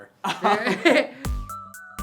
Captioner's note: they laugh; upbeat music